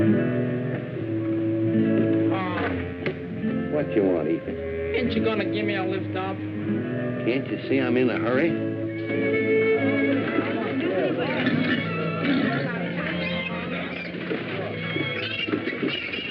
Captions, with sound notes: -Paul. -What you want Efus? -Ain't you gonna give me a lift up? -Can't you see I'm in a hurry? [chatter]